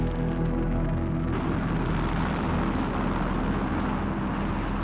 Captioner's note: plane roaring